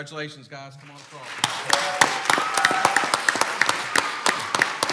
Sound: clapping and cheering

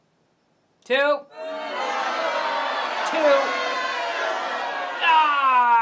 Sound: audience boos

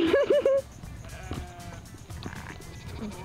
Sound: sheep noises

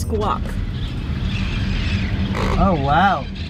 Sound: birds squawking and chirping

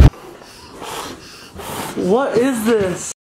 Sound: breathing

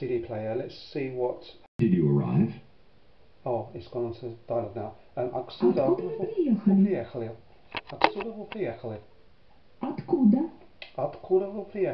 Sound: answering in Russian

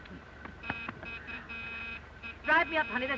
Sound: car beeping

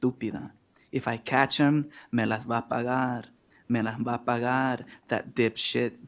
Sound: speaking spanish

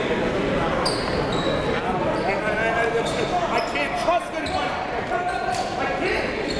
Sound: crowd talking; coaches yelling

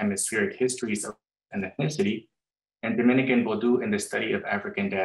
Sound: non-english speech

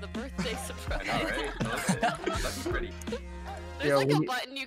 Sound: laughing

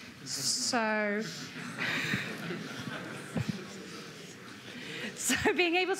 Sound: laughter

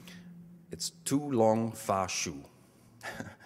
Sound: foreign language

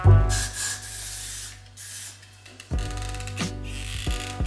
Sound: gas spraying; bright upbeat music

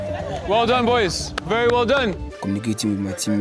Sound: claps

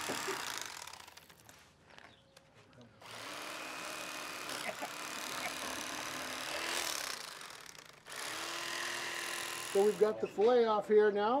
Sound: whirring of electric knife

